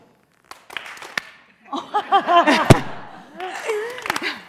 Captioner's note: laughing